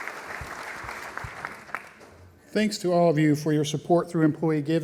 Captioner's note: applause